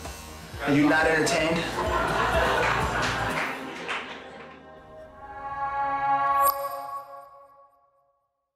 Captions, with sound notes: Are you not entertained? (everyone laughing)